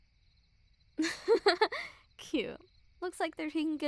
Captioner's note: soft laugh